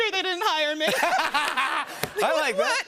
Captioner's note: laughter